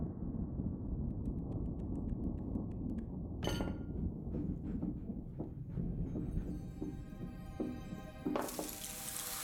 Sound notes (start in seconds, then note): 2.4 dog approaches